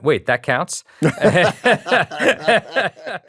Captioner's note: both laughing